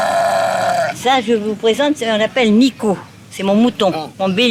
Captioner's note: French spoken audio